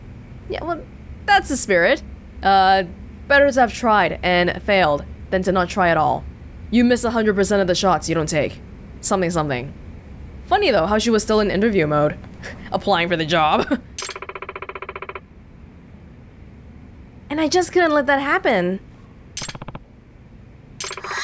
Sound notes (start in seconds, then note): 13.6 chuckles